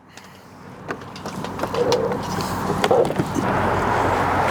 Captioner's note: cable clattering; traffic whooshing